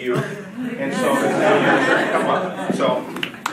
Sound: drowned by laughing; audience laughing

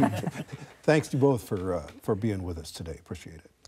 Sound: laughter

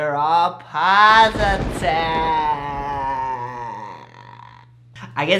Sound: spooky voice

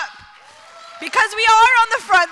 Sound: applause

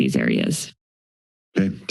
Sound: silence

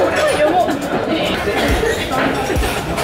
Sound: coughing

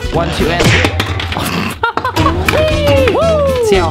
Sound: laughing

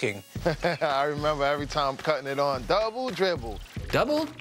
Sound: chuckles

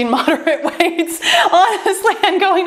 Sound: laughs

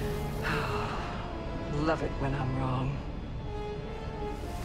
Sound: sigh

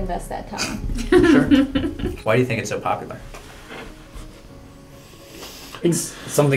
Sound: laugh

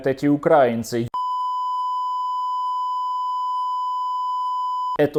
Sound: speaks native Russian

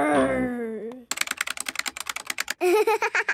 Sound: keyboard clicking

